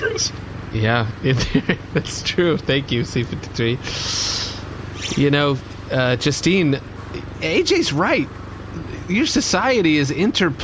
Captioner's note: laughing